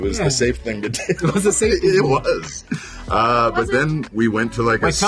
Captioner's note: laughing